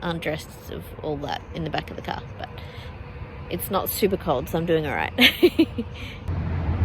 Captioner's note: giggles